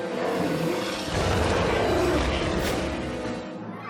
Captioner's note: roars